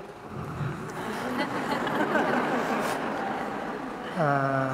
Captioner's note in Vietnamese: tiếng cười